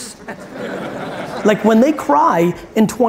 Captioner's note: audience laughs